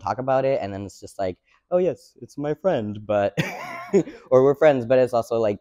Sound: laughs

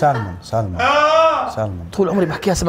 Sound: laughs; screams

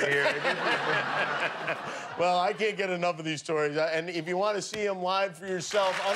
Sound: laughter

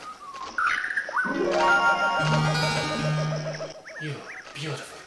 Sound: jungle sounds

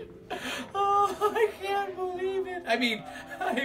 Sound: laughs

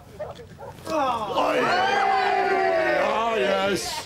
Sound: cheering

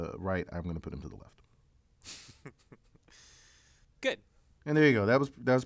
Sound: laugh

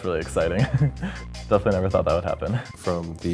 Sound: laugh

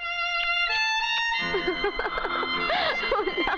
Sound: laughs

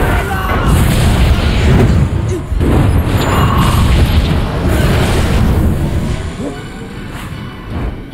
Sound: flames blazing

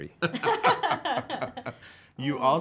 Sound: laughing

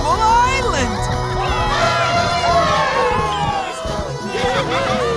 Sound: cheering

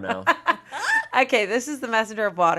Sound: laughs

